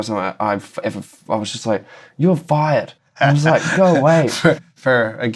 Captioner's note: laughter